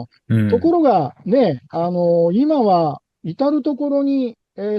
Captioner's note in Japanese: 咳払い